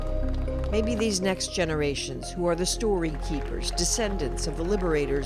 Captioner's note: applause